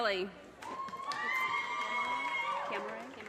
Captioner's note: audience cheers and applause